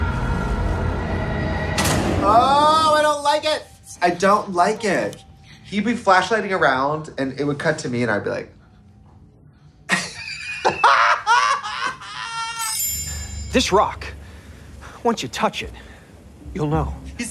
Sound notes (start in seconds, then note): 0.0 suspenseful music; 9.8 both laughing; 12.6 soft chiming